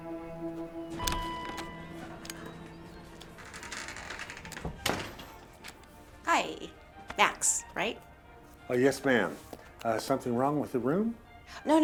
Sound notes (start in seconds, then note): 0.5 door bell dinging